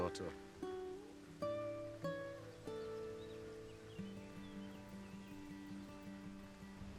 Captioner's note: birds chirping; gentle music